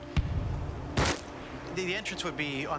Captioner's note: gun fires